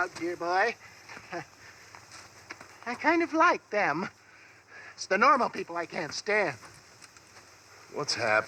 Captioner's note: Respire